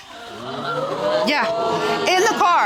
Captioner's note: audience exclaims